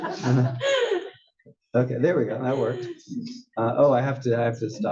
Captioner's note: laugh